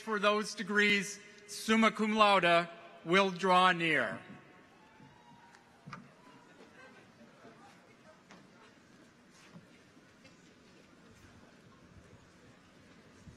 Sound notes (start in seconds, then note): 7.2 people chattering distantly